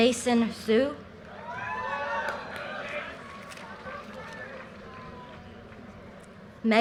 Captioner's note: audience cheers and applause